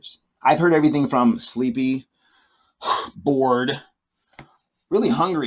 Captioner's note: exhales